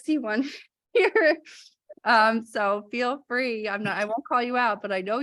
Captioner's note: laughter